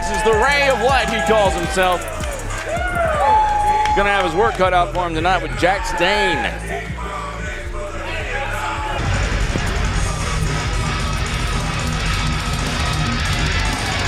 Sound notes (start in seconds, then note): 3.2 crowd cheering; 8.3 crowd screaming; 9.7 upbeat music